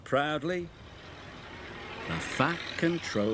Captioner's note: car engine revs